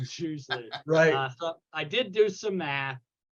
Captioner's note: laughing